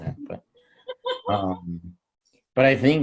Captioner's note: laughs